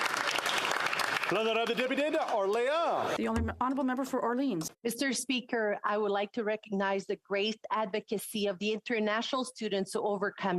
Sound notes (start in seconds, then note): 2.6 some Applause